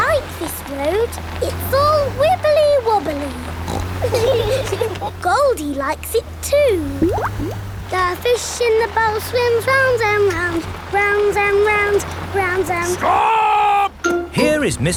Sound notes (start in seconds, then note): 4.1 laughing